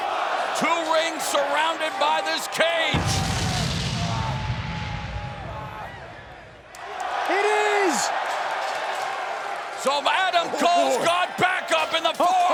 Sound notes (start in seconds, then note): 2.9 explosion sound effect; 3.5 fans cheering